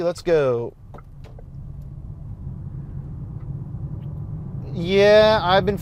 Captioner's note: engine whooshing